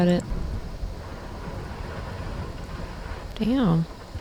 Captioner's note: thunderstorm continues